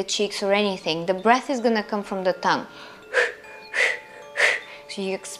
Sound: breathes heavily

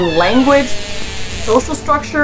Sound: orca vocalizations; background music

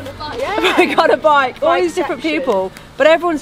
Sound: laughs

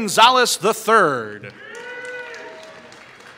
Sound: applause

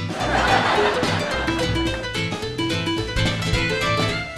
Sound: audience laughs

